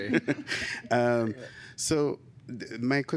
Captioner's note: laughter